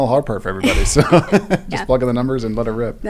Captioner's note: laugh